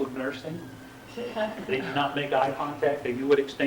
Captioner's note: laughter